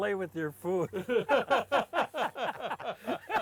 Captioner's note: laughs